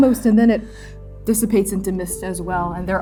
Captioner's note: shallow gasping